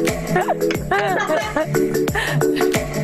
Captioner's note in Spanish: risas